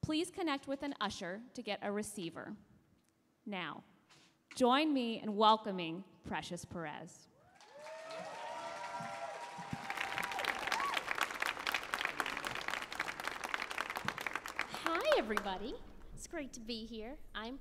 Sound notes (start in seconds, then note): 7.4 audience cheers and applauds